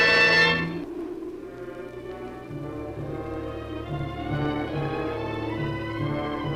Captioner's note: muffled wind howls; suspenseful orchestral music